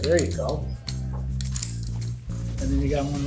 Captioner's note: buckle clicks